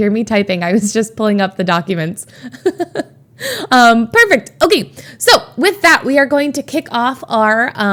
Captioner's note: Emma laughs